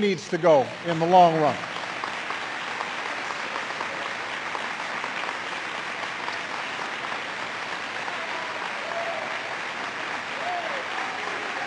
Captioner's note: applause